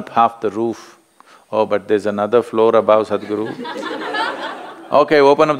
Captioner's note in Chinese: 笑聲